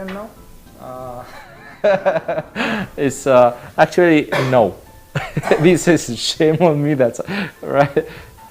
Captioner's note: laughing